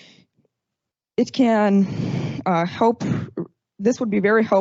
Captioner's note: exhales